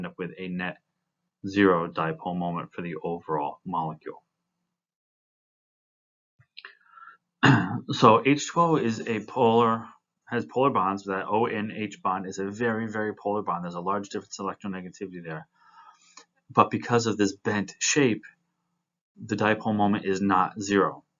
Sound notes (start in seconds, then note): 7.4 cough